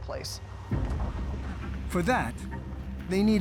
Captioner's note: wind howling